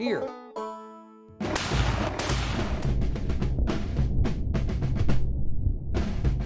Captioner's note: cannon shots